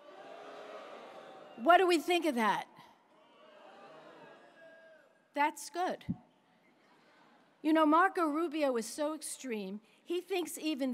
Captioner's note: audience boos